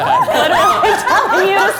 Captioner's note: laughing